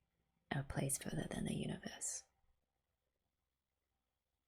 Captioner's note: whispers